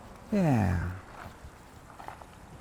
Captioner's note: sighs